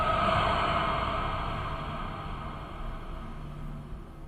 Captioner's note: ominosa jadeando